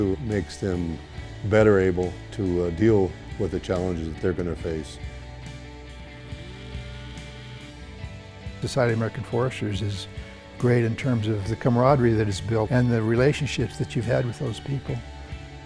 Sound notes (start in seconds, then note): 5.4 chainsaw buzzing